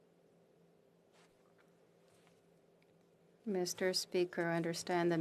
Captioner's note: speaking French